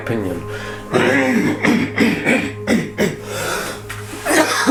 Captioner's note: coughing